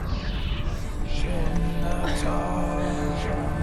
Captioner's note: indistinct chatter